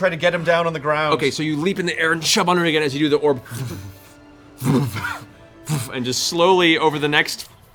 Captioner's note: sinking noise